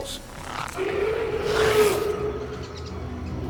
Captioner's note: Zuniceratops roaring